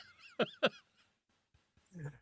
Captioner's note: laughs